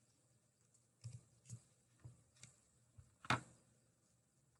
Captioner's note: mouse clickings